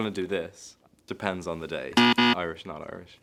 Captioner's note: buzzer buzzes